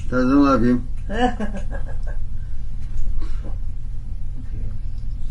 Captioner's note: laughing